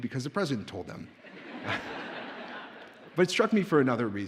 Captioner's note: audience laughs